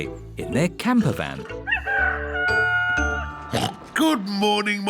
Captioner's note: daddy pig oinks; rooster crowing